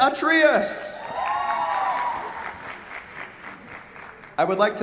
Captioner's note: cheers, applause